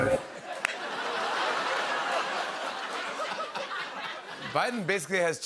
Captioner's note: laughter